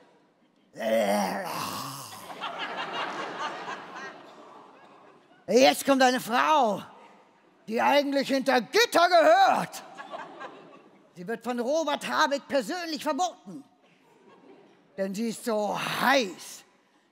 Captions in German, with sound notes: *Sie krächzt.* Jetzt kommt eine Frau, die eigentlich hinter Gitter gehört. Sie wird von Robert Habeck persönlich verboten, denn sie ist so heiß,